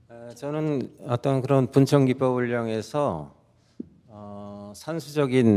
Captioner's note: speaking in Korean